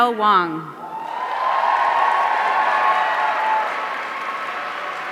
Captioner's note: audience cheering